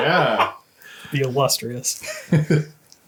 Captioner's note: laughs